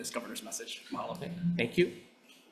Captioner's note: speaks in Indigenous language